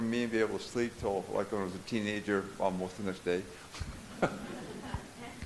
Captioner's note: audience chuckles